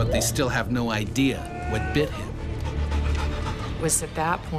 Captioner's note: voiceover